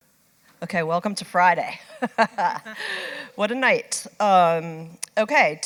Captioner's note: laugh